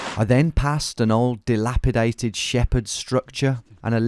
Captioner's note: none